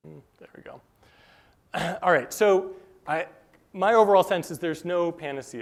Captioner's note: cough